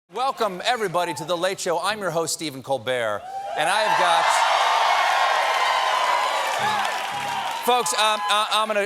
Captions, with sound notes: WELCOME, EVERYBODY, TO "THE LATE SHOW." I AM YOUR HOST, STEPHEN COLBERT. AND I HAVE GOT-- ( CHEERS AND APPLAUSE ) FOLKS, I'M GOING TO SHOOT YOU STRAIGHT.